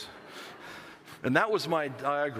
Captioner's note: laughter